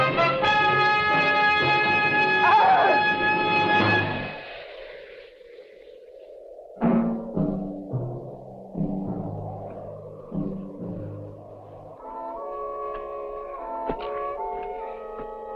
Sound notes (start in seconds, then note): 2.4 man screaming; 11.7 gentle instrumental music